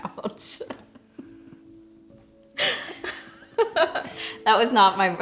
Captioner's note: laughing